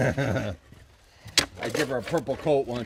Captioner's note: laughs